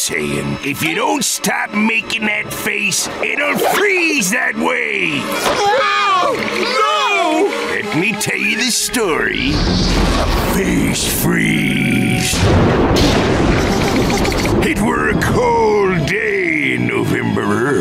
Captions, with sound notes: "If ya don't stop making that face, it'll freeze that way. [shrieking] No! Let me tell ya the story of Face Freeze. [thundering] It were a cold day in November-er,